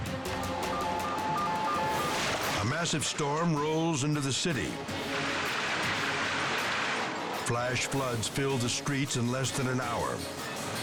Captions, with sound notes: (alarm blaring) A massive storm rolls into the city. (water splashing) (dramatic music) Flash floods fill the streets in less than an hour,